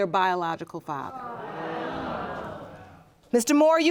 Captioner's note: audience groaning